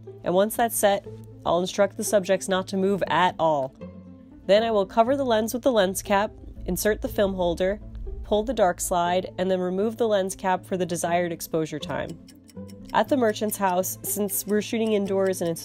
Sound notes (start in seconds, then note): 11.8 clock ticks